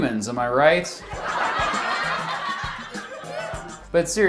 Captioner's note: fake sitcom laugh